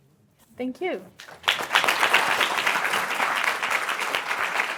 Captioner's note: applause